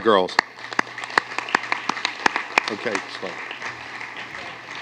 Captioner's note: applause